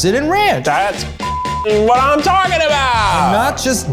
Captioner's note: beep